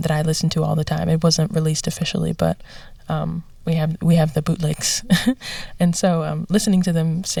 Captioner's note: laughter